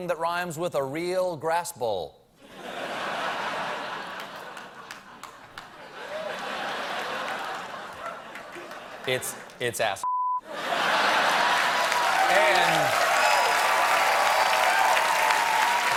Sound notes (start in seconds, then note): 6.8 laughter; 10.7 cheers and applause